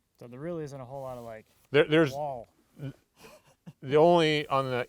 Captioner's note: laughs